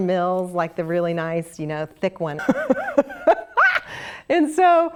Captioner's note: laugh